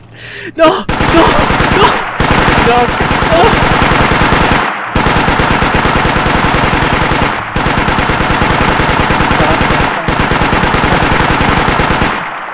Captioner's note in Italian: Suoni di mitragliatrice